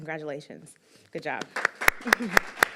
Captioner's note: applause